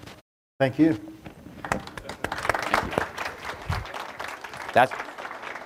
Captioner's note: audience clapping